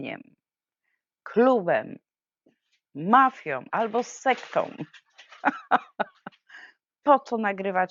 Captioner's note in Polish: śmiech